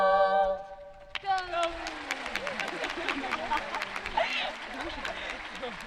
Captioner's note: audience clapping